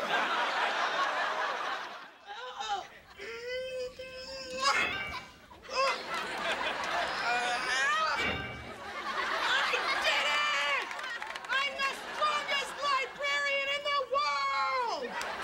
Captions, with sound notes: [groaning] I did it. I'm the strongest librarian in the world!